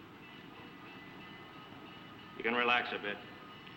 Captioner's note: train bell ringing